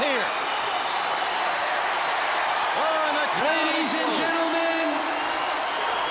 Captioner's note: applause